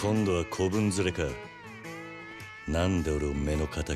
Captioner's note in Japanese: none